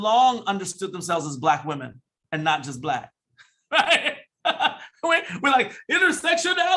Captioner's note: laughs